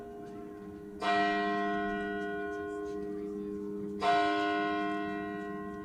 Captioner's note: bells ringing continues